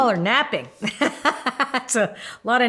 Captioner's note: laughing